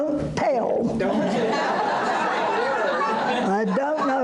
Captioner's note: audience laughter